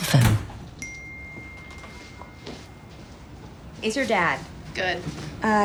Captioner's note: phone chimes